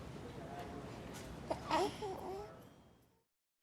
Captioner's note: whimpering stops